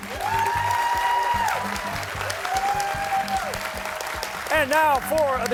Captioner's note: cheers and applause